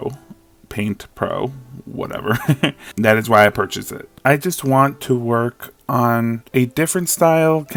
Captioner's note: laughs